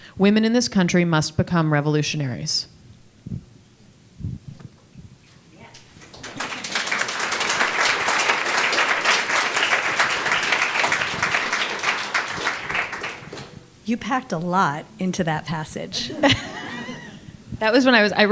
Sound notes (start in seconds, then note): 5.7 audience applauding; 15.8 laughs